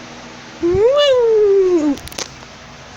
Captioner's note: exclaiming